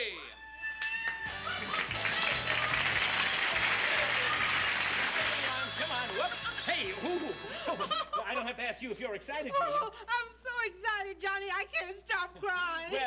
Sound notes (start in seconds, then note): 0.6 cheers, applause; 7.5 Julia Colby, giggling